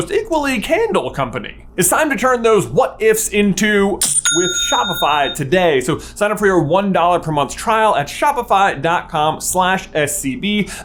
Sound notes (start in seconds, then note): 4.0 cha-ching!